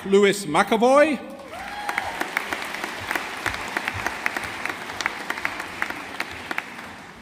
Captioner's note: audience applauding